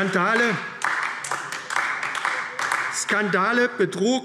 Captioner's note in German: Beifall AfD